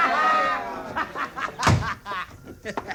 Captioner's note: laughter